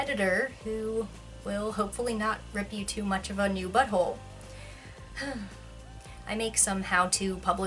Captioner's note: sigh